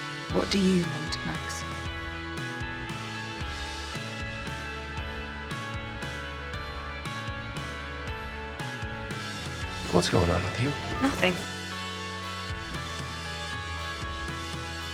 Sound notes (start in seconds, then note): 10.0 voiceover